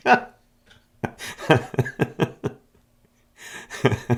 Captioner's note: laughing; laughs